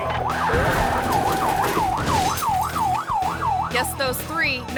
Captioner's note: siren blaring continues; upbeat music continues